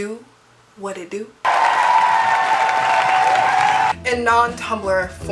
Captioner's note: applause